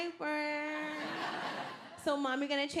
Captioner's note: audience laughing